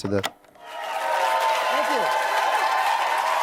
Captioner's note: audience cheering